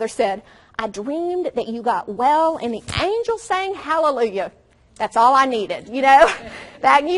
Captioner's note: audience laughs